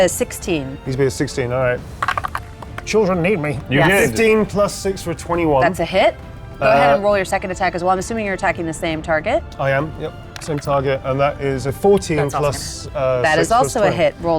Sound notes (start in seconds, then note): 1.9 die rattles; 10.6 die rattles; 12.6 faintly speaking